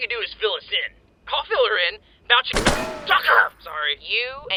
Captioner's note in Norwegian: pistol skudd